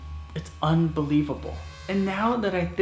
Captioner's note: buzzing